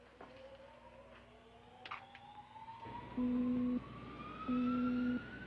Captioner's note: machinery Whirring, Beeping